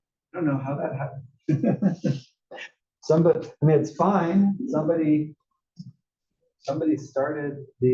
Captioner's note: laugh